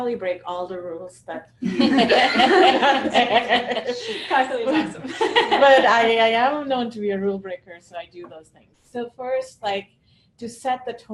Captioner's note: laughter